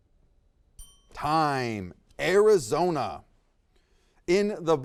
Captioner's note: bell dings